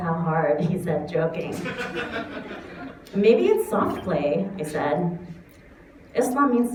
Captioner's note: laughter